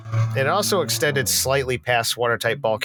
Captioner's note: fast car in background